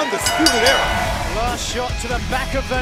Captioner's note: bell ringing